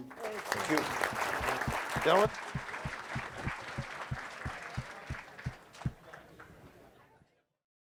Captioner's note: applause